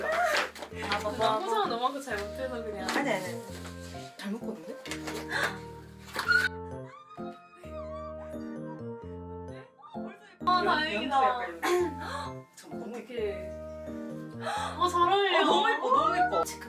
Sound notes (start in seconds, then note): 6.2 screaming because she's happy